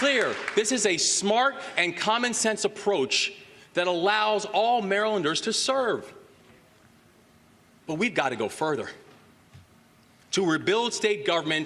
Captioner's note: applause